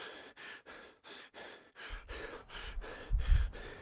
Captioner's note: deep breath